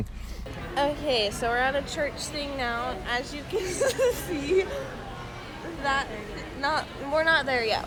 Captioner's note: laughing